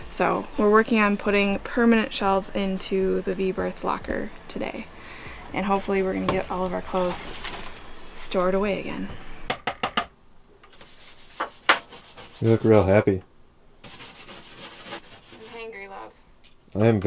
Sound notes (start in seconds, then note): 10.7 brush scrubbing